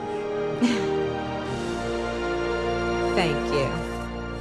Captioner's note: Samantha Chuckles